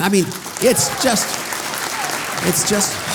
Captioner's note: audience applause